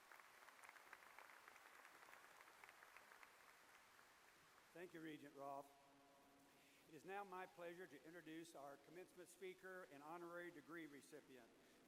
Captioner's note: applause